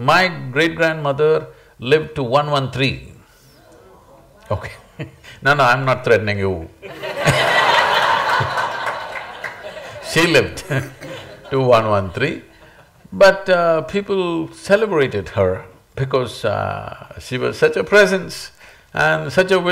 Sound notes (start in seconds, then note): 3.6 laughs; 6.8 laughter